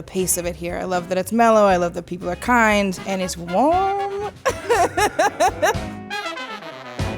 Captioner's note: laughter